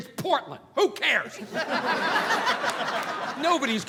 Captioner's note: audience laughing